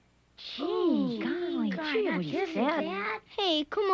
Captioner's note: crowd murmuring